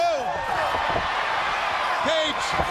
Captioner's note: audience cheers